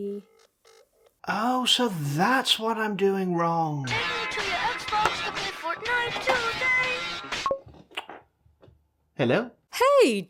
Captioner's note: phone rings